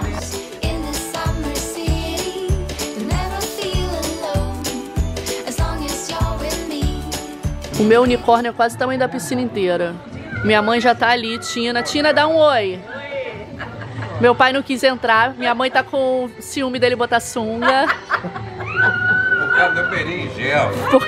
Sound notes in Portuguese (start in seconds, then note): 13.5 risos; 17.6 mãe da ri